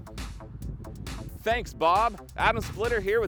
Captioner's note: gusts of wind